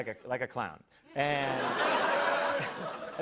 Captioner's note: laughter